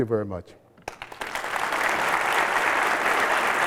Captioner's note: applause